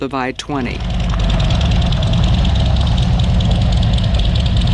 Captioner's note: engine rumbles